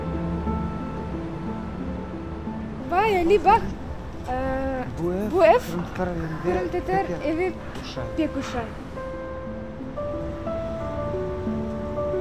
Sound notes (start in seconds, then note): 2.7 in Crimean Tatar